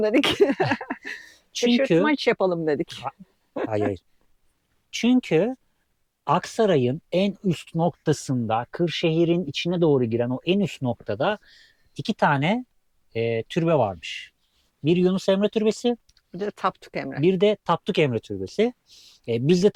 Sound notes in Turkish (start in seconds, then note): 0.2 kahkaha